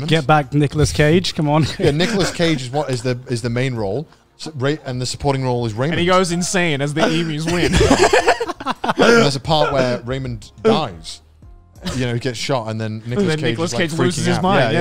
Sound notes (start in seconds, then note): 7.0 everyone laughs